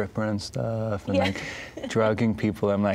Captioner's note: laughing